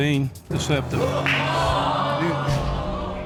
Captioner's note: audience gasping